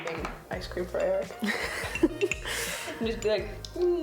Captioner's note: laughing